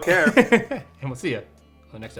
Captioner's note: laughing